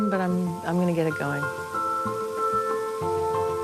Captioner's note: water running